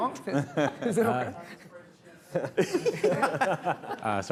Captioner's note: laughing